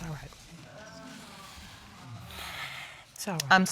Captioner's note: sighs